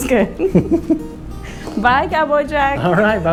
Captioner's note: both chuckles